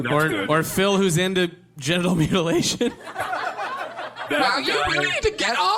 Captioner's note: cast and audience laughter